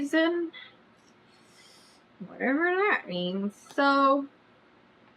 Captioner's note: inhales loudly